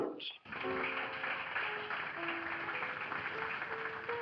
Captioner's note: applause